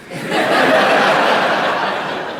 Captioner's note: laughter